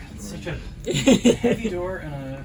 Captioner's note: laughs